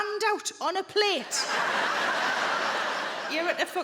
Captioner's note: audience laughing